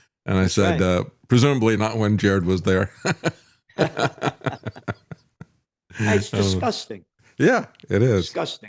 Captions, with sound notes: And I said, presumably not when Jared was there. (Laughs) It's disgusting. Yeah, it is. Disgusting.